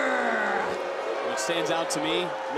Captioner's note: crowd boos